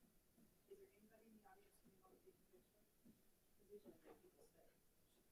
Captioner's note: people chattering